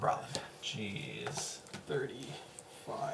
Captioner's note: whispering life totals